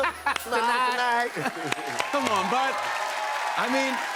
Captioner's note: cheers and applause